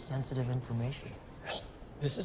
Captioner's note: scoffs